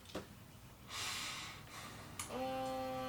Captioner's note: breathes in and out